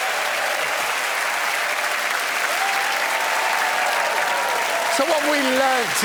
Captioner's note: cheers and applause